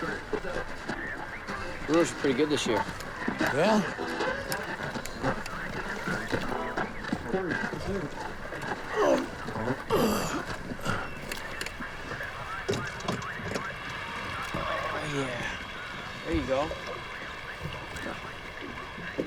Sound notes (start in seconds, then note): 9.0 grunting; 15.1 radio station playing football game